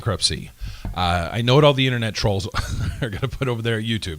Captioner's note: laughs